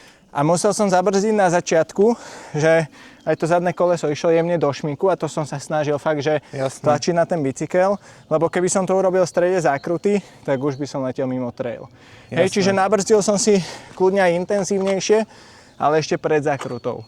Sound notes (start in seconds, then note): 6.6 laughs